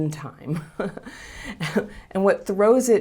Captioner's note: chuckling